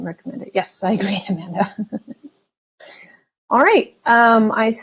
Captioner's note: chuckles